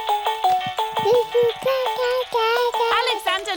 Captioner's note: mobile playing loud music; cooing